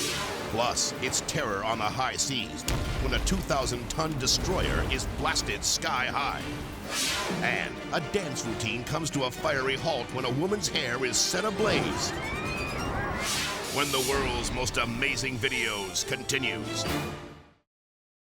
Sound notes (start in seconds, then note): 11.6 people screaming